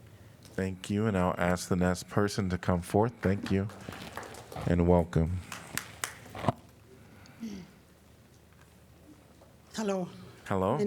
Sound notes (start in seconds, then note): 3.2 applause